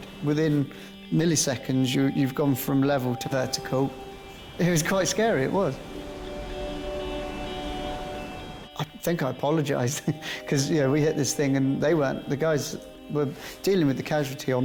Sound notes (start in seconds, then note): 6.6 soft music; 6.6 waves crashing